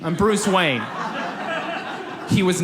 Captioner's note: audience laughs